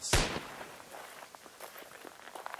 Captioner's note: a distant gunshot